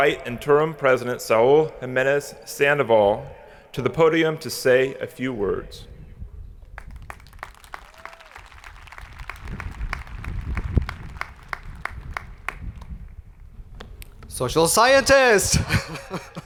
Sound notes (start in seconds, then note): 6.7 hands clapping; 7.2 people cheering